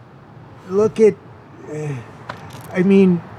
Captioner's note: sighs